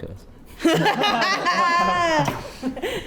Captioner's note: laugh